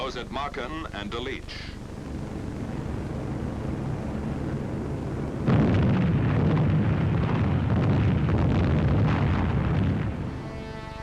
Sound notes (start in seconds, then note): 5.9 bombs exploding